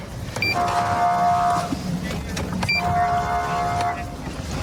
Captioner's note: horn blaring